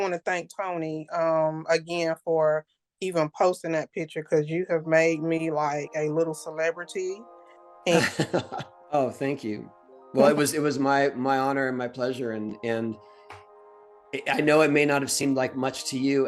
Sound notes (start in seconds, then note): 7.9 laughs